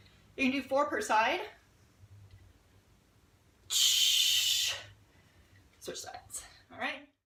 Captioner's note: audible exhale